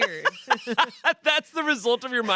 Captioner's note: Shayne laughs